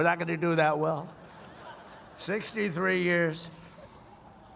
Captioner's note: laughter